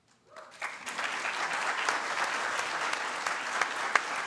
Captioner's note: audience claps